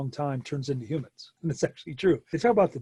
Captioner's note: chuckles